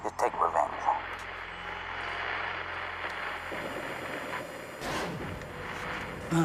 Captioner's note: radio static